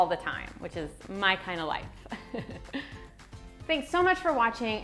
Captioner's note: chuckles